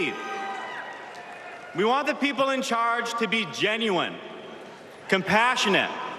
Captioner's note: cheers and applause